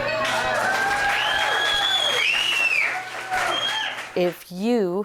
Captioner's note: applause